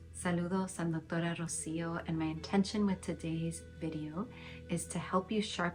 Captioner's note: speaking in Spanish